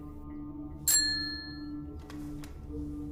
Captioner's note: Call bell dings